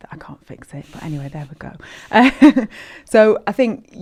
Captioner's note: chuckles